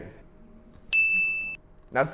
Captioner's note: ding